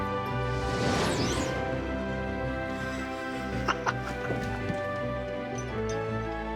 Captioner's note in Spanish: risas; zumbido